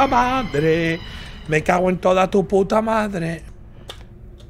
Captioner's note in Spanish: grita; canturrea